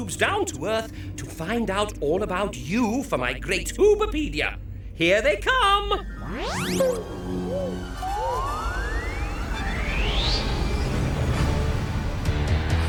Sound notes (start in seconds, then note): 6.0 soft zap; 9.9 upbeat music